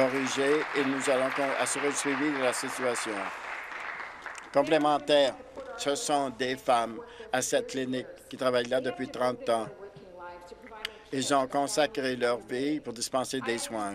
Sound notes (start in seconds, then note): 3.3 applause